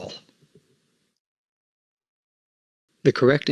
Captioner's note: silence